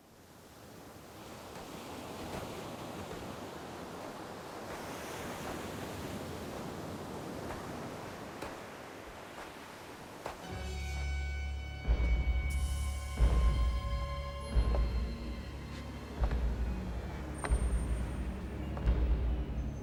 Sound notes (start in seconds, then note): 0.9 waves crashing; 10.0 suspenseful music